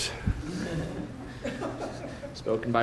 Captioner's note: laughter